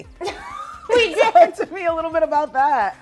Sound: laughing

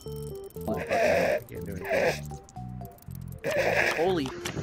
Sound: obscene laughter

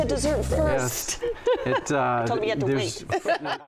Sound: laughs

